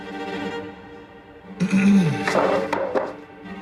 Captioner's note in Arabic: موسيقى درامية; كنعان يمسح حلقه